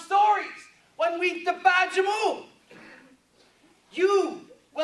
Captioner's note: speaking in foreign language